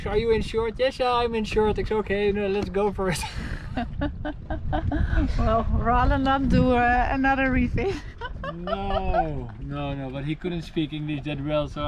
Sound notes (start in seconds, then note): 3.8 laughs